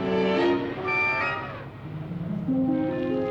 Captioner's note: elephant trumpets